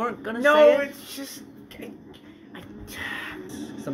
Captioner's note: sigh